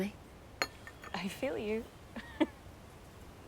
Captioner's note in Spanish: riendo